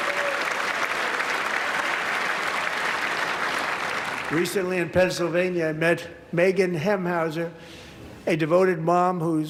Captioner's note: applause